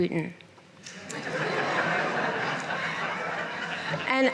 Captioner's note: laughter